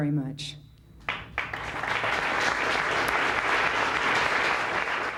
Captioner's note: applause